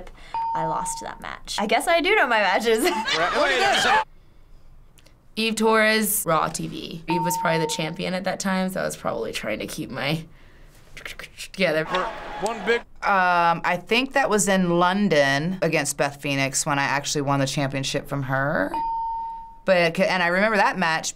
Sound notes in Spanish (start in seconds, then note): 2.6 risitas